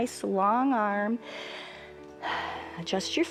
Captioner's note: inhales and exhales